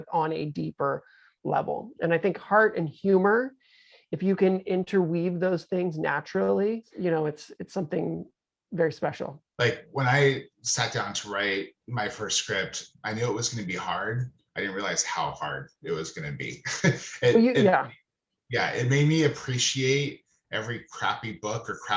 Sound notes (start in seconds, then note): 15.8 laughing